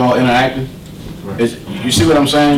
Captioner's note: voiceover